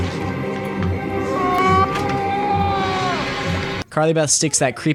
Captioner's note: terrified moan/scream